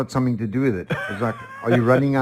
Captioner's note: laughing